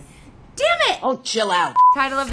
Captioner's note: beep